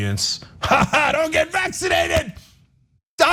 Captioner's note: laugh